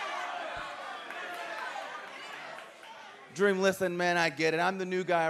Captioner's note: crowd chatter